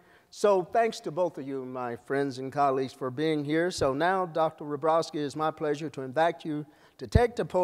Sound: none

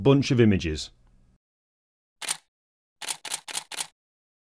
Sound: letters typing

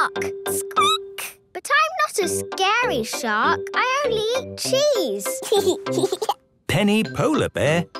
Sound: squeaking; giggling

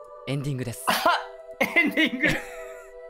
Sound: laughs

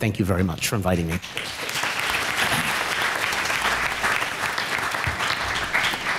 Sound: applause

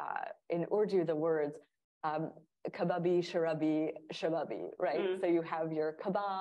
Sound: speaking in Urdu

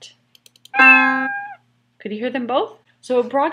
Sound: meow

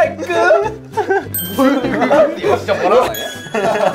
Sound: everyone is laughing

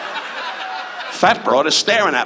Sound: audience laughs

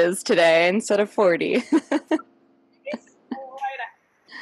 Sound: laughs

